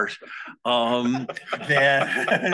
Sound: all laugh

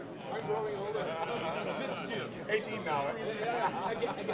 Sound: laughing

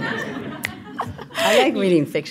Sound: audience laughing

